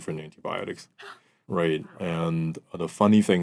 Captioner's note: gasps